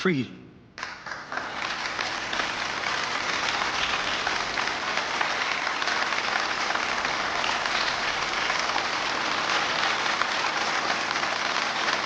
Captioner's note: applause